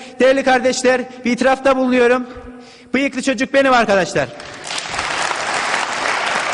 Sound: cheers

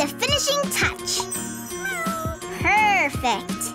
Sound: meowing

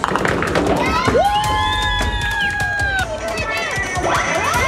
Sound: group cheering

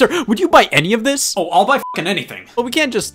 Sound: beep

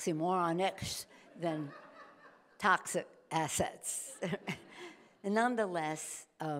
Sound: chuckles

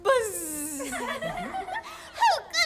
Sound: everyone laughs

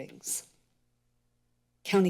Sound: pause

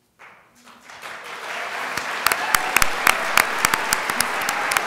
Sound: crowd applauds

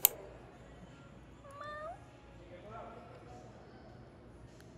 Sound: greeting in cat language

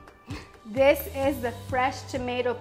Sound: laughs

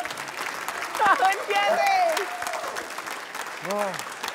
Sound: applause

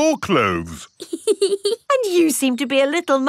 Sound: laughs

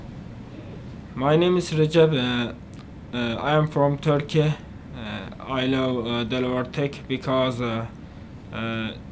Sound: in English

